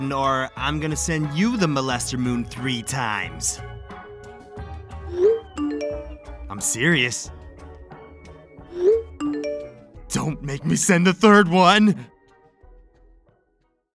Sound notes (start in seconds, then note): 5.2 text message alert sounds once; 8.8 text message alert sounds twice